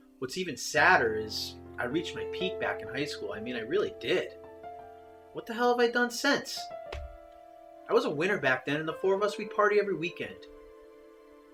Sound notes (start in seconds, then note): none